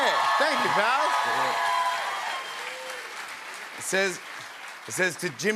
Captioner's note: cheers and applause